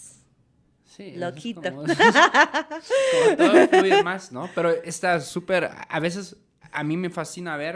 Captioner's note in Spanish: risas